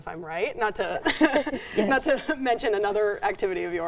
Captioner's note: chuckling